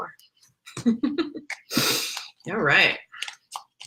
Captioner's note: laughs